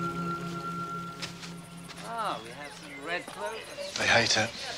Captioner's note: indistinct chattering